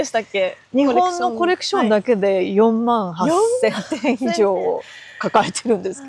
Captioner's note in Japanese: 笑い